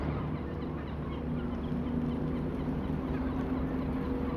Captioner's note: seagulls